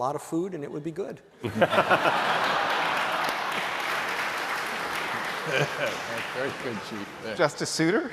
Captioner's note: laughter; applause